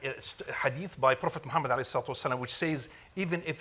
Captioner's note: speaks Arabic